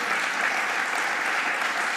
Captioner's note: applause